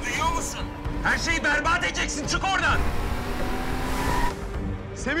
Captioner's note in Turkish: Araba sesi